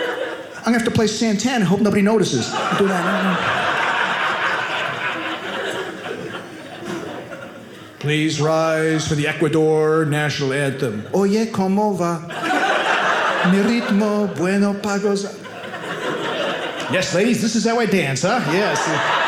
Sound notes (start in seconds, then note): 1.6 audience laughing; 10.9 singing in Spanish